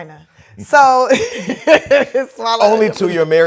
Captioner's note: laughs